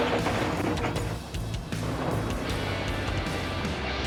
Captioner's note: scraping sound